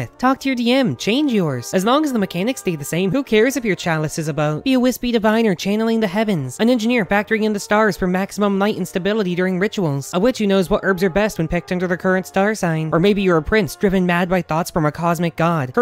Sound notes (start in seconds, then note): none